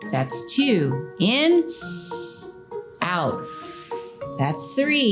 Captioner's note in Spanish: inhala bruscamente; Silbido de respiración